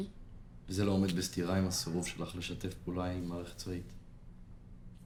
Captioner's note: speaking foreign language